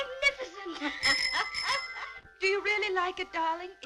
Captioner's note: ringing